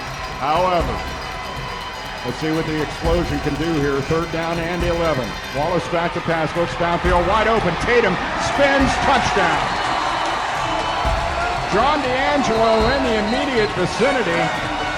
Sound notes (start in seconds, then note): 1.6 crowd; 9.9 crowd goes wild